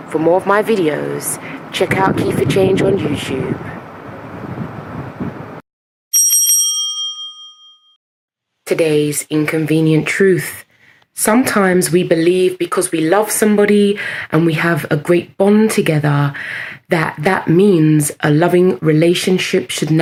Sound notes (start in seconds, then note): 6.1 bell rings